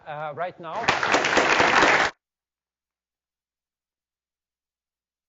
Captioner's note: audience applauds